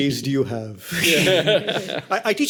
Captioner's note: laughter